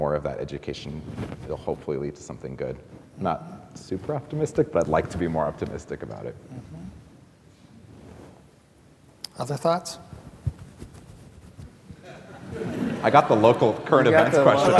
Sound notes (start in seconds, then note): 12.0 laughter